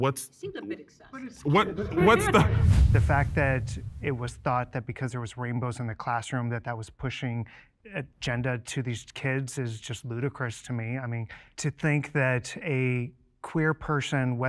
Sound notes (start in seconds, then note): 2.2 air quivers